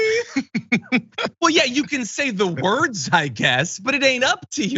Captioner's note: laugh